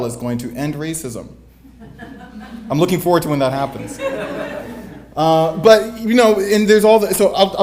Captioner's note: audience Chuckle; audience Laughter